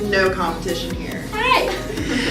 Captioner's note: high pitched voice